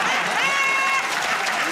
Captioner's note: laughter